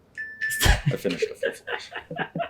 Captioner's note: laughing